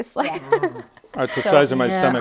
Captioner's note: laughs